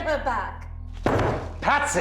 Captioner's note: loud thud